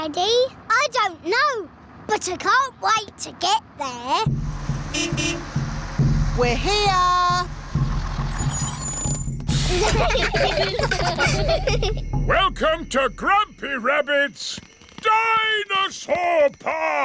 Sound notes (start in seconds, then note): 4.3 horn beeps; 9.5 children giggling